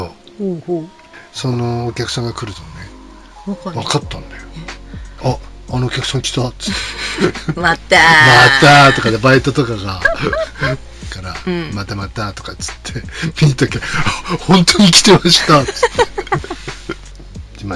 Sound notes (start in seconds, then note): 6.7 laughs; 15.4 laughs